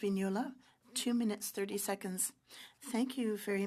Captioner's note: speaking French